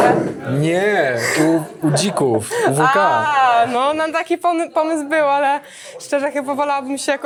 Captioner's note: laughs